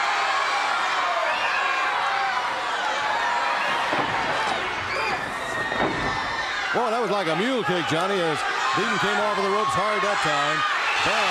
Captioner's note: crowd chatter